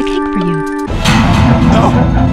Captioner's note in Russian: шокирующий звук